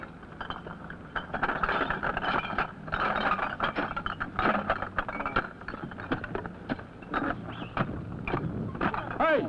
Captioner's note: noise from clinking bottles being collected